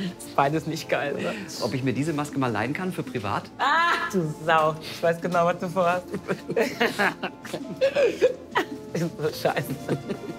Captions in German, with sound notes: Ist beides nicht geil, oder? - Kann ich mir die mal leihen? (lacht:) Du Sau! Ich weiß genau, was du vorhast. (Beide lachen.) Irgend so ein Scheiß.